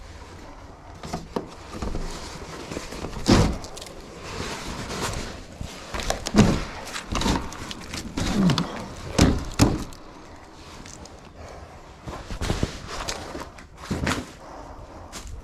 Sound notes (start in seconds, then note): 11.8 heavy breathing